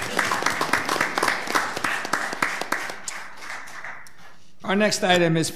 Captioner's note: audience applauds